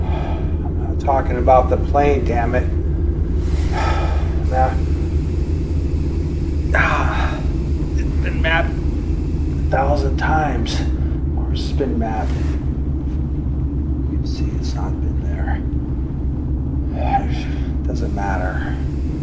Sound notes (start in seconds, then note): 0.4 sighs; 4.0 Commander Gray sighing; 16.2 eerie atmospheric music